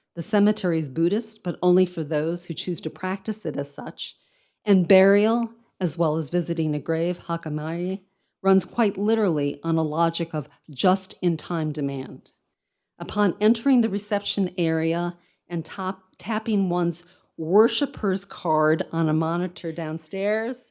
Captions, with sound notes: The cemetery is Budhhist, but only for those who choose to practice it as such. And burial as well as visiting a grave, (speaks in foreign language) runs quite literally on a logic of just-in-time demand. Upon entering the reception area and tapping one's worshipper's card on a monitor downstairs,